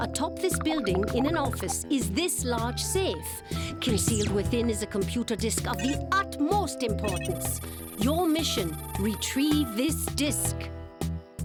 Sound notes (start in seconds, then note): none